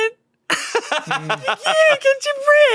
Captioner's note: laughs